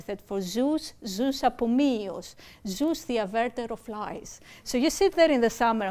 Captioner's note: speaking greek